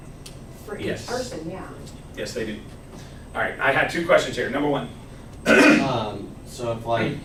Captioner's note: clears throat